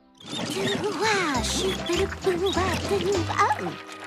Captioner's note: humming